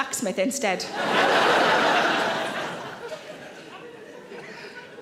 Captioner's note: audience laughing